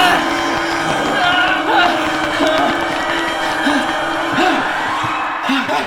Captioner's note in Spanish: Jonathan gritando; Jonathan jadeando